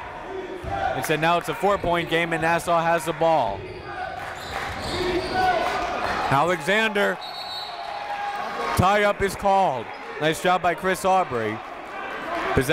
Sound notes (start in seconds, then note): 7.1 whistle blows